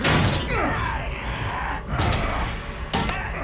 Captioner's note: both grunting